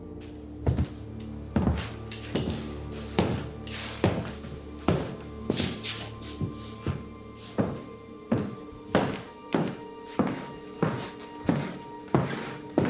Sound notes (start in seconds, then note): 0.7 ominous music; 7.6 Fredriech stomping